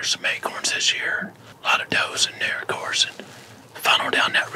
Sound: whispering

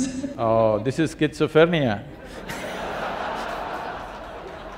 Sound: laughs; laughter/Applause

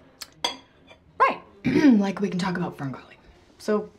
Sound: clears throat

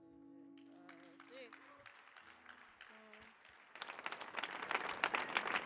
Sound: audience applauding

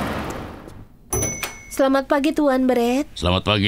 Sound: bell dings

